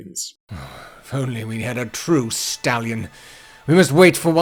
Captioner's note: sigh